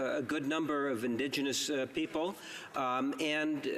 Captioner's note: speaking indigenous language